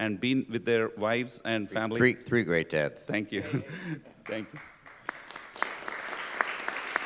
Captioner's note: applause